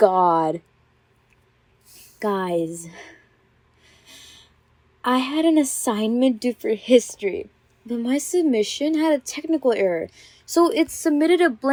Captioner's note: inhales